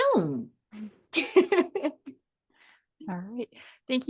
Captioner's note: chuckles